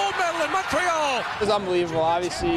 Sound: applause

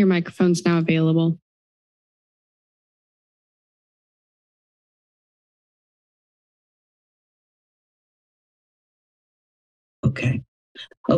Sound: silence

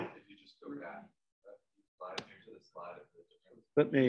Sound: man speaking away from the mic

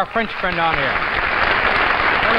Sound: crowd clapping

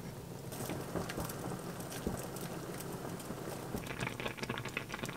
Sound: boiling

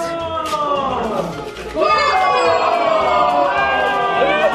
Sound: crowd yells

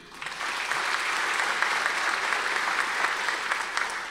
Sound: audience applause

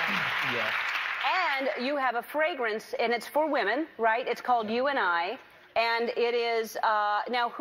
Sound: applause

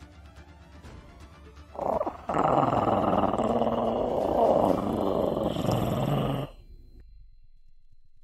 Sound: growl

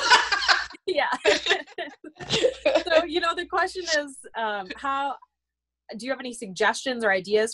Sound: laughter

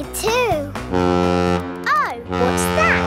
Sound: horn bellowing

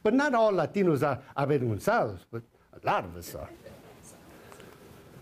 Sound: foreign language

